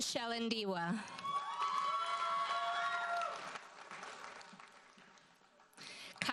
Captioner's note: audience cheers and applauds